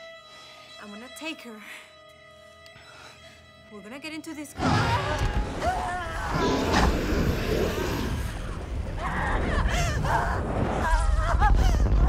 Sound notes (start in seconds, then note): 4.0 monster grumbling; 4.6 Majors screaming